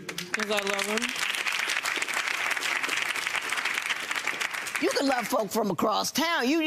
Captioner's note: audience applauds